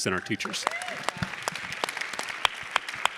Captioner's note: audience clapping